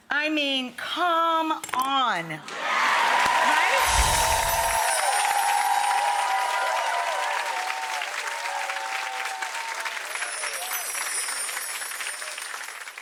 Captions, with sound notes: I mean, come on, right? (cheering and clapping) (bells chiming) (audience cheering and clapping) (bells chiming)